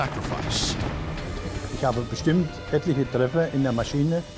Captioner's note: speaking german